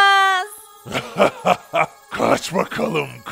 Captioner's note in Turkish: Gülme sesi